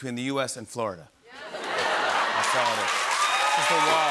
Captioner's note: cheers and applause